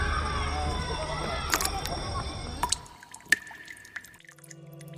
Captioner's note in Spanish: Gotas cayendo